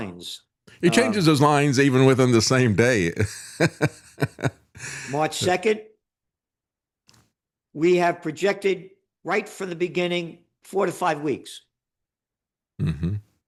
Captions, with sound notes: He changes his lines even within the same day. (Laughs) March 2nd, we have projected right from the beginning four to five weeks.